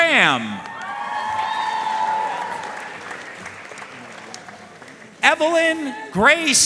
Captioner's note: audience cheering and applauding